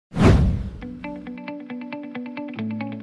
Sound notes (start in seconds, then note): 0.1 whoosh Sound